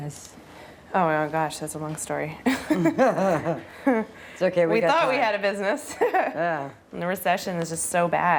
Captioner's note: laughs